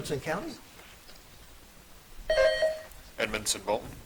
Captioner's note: buzzer dings